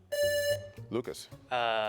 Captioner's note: buzzer rings